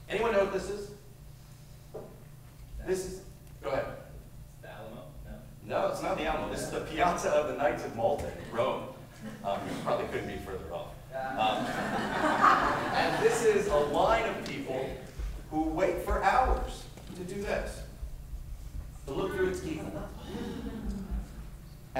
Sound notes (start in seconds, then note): 11.4 laughter